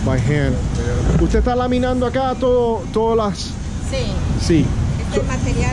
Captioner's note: speaking Spanish